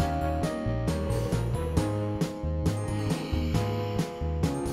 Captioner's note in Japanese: 寝息